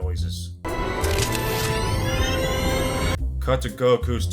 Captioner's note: sci-fi noises